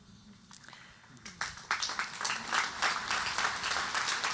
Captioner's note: audience applauding